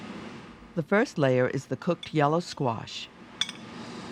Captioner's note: voiceover